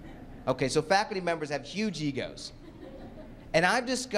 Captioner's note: laughter